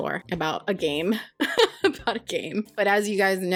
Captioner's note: laughs